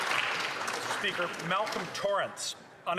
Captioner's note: speaking French